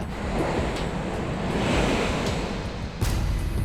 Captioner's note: waves crashing